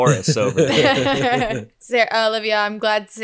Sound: laughs

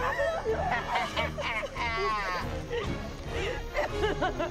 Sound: cackles

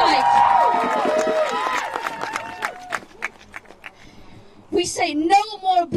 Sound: crowd cheers and applauds

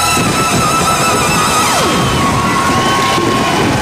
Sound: everyone cheers

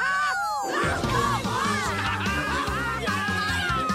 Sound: cheering

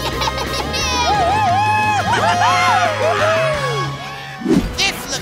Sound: cheering

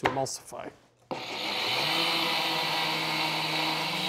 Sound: blender whirring

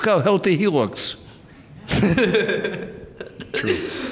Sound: laughing

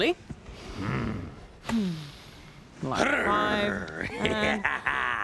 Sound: growling playfully

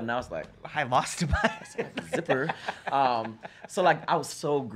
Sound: laughs

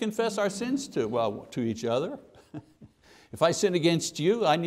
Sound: chuckles

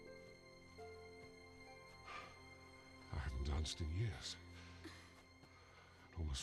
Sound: sighs

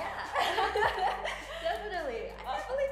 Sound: laughs

